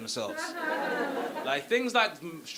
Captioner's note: audience laughing